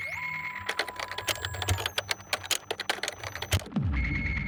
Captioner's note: machine whirs and clicks